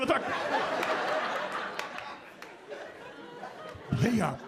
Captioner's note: audience laughing